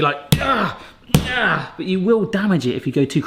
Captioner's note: grunts